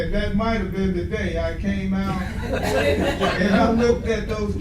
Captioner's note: audience laughing